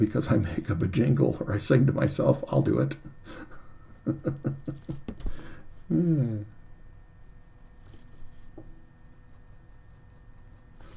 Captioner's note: chuckles